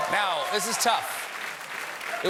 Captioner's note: cheers and applause